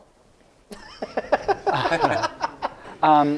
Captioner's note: laughter